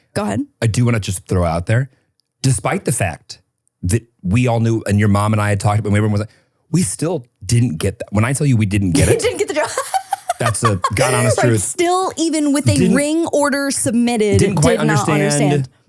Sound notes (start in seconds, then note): 11.3 person laughing